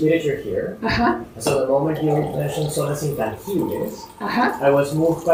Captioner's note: spanish